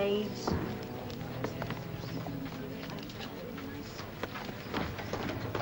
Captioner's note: soft chatter; wagon clatters